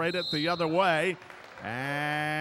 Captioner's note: whistle blows